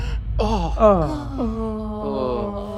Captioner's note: gasping; ominous music continues; all oh-ing